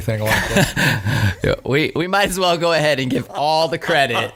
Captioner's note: laughing